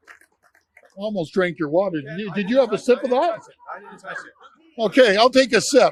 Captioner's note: applause